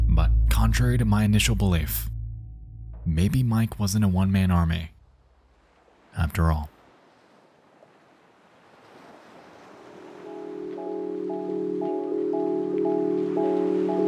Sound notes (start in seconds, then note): 8.7 waves swishing; 9.9 dreamy music begins